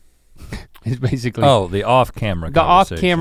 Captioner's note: chuckles